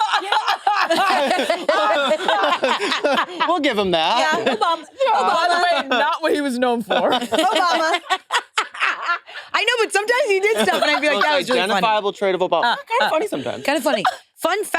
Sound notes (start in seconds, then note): 0.3 participants laughing; 10.4 participants laughing